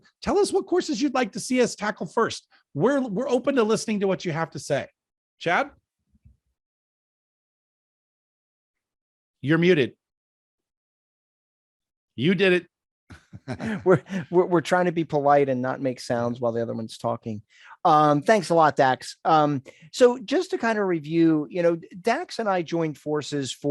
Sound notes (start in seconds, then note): 13.1 both laughing